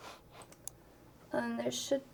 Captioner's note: mouse clicks